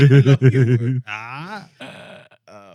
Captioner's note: speaking Spanish